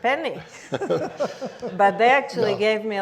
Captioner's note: laughs